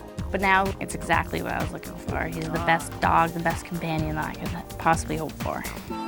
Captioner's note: none